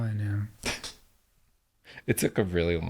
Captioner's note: laughing